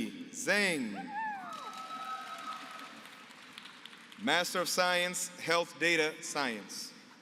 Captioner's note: applause